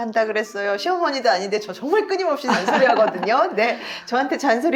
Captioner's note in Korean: 웃음